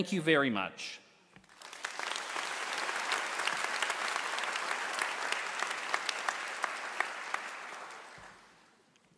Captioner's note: applause